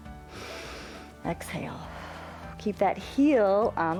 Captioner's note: exhales; inhales